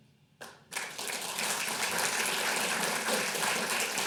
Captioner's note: clapping